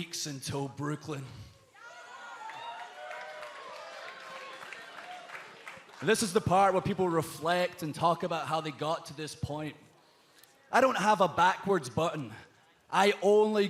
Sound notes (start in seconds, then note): 1.7 cheers and applause